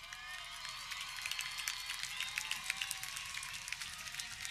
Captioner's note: audience cheering